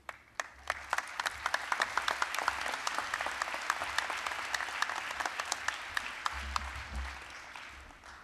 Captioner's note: applause